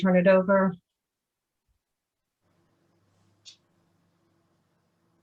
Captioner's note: muted